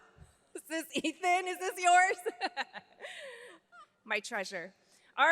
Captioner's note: laughs